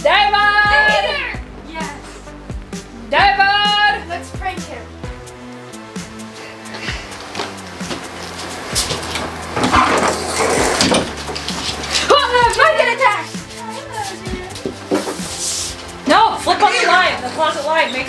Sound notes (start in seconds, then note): 10.2 door creaks open